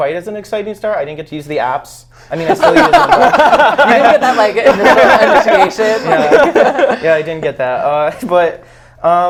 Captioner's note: laughs